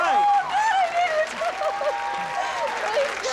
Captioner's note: excited crying